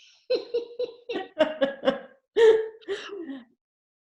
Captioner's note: both laughing